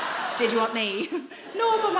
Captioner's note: audience laughs; laughs